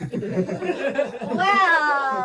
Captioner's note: everybody Laughing